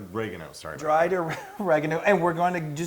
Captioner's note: laugh